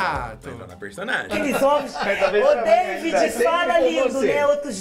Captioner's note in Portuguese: Fábio ri